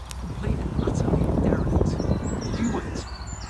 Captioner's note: wind drowns out speaker